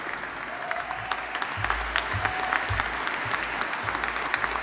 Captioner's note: audience applauding